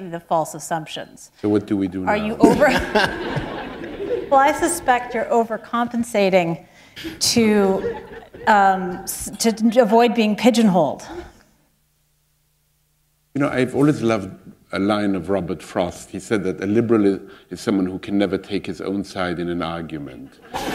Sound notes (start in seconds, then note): 4.9 laughter